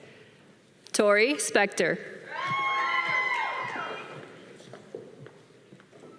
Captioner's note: audience applause